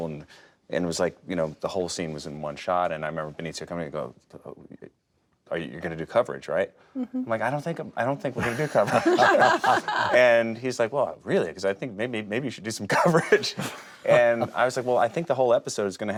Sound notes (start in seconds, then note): 8.4 all laugh